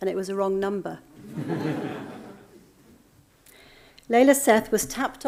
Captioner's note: audience laughing